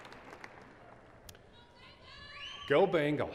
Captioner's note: cheers and applause